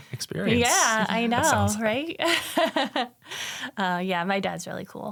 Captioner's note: chuckles